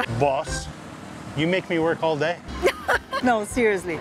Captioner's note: laughs